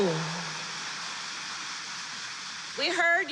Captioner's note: applause